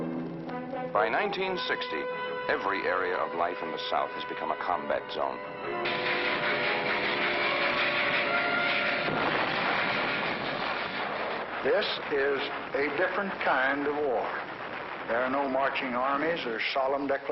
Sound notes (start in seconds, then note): 7.6 sounds of explosions and gunfire